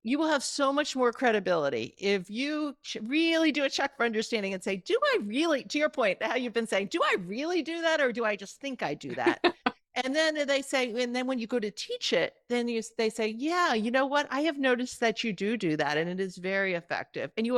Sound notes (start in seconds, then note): 9.1 chuckling